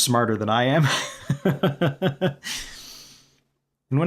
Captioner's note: laughter